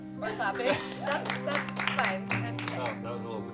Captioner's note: a few claps; sad cello and piano music